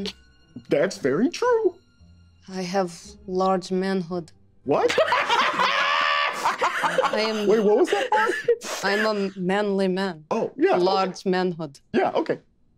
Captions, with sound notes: - That's very true. - I have large manhood. - What? (group laughing) - Wait, what was that part? - I'm a manly man. - Oh, yeah. - Large manhood. - Yeah, okay.